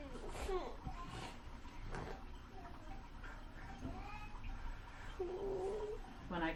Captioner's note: whines a little